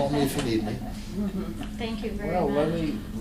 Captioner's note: laughter